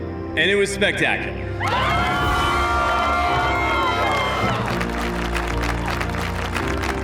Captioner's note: cheering, applause